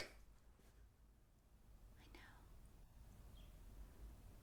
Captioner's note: whispering